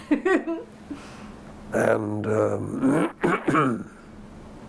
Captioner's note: laughter